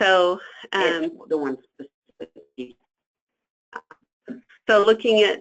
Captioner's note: speaking off mic